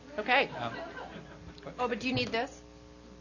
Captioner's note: audience laughing